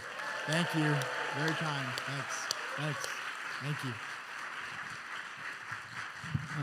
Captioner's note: applause and cheering